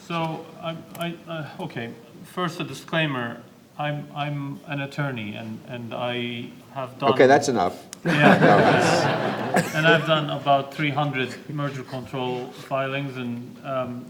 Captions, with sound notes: - Okay, so, okay. First, a disclaimer. I'm an attorney and -- - okay, that's enough! (laughter) - And I've done about 300 merger control filings